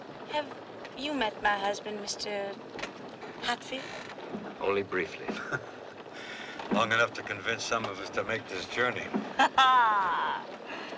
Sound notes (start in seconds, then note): 5.3 scoffs; 9.4 laughs